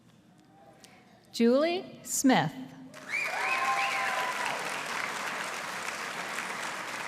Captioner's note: audience applauding